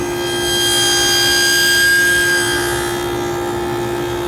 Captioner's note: saw whirring continues